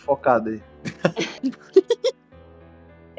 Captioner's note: laughter